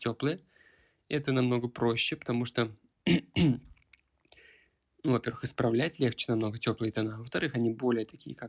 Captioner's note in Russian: откашливается